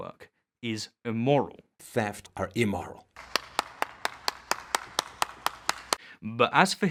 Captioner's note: clapping meme